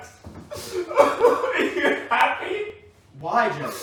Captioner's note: crying